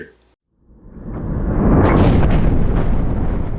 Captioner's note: thunder